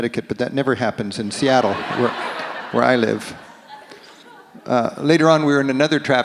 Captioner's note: audience laughs